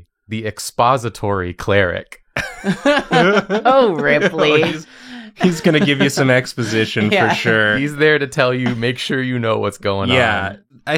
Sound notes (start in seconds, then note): 2.3 laughter